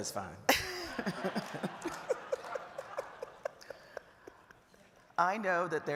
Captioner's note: audience laughing